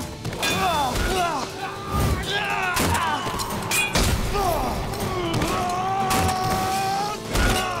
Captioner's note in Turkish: Dövüşme sesleri; Kılıç sesleri